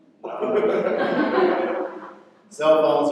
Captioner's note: laughter